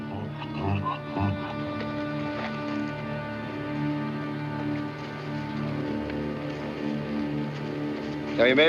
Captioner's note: MULE BRAYlNG